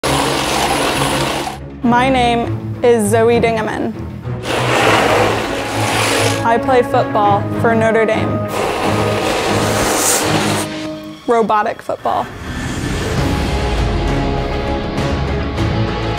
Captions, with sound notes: (Robot whirring) - My name is Zoe Dingeman. (Robot whirring) I play football for Notre Dame. (Suspenseful music) Robotic football. (suspenseful music)